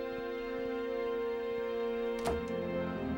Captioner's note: sound: Door shuts